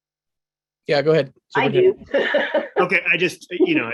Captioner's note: laughs